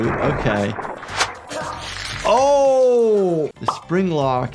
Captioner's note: victim choking